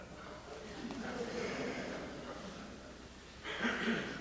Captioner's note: laughter